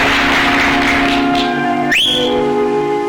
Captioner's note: audience applause; whistles